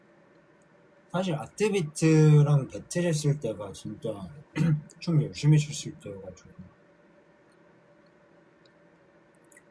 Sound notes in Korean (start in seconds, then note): 4.2 목을 가다듬음